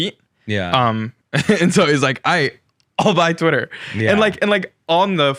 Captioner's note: chuckles